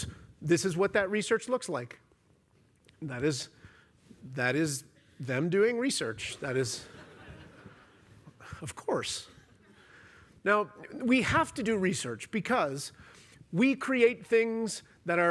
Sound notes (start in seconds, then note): 6.7 laughter